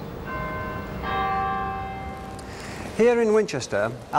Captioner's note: bells chiming